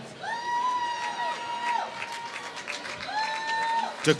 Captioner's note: applause